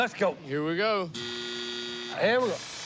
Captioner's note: buzzing